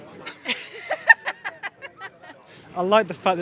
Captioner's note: both laugh